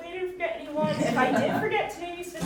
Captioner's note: audience chuckling